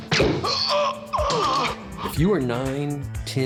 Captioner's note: gunshot; groaning